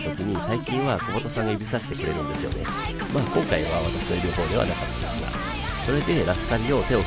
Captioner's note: laughs